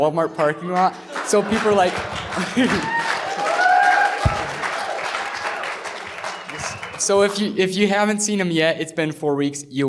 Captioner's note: applause